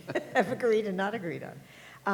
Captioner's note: laughter